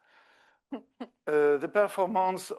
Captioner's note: laughs